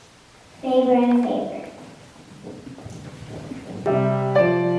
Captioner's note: audio distorts; acoustic piano music